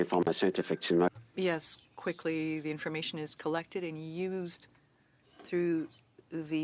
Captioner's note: speaking French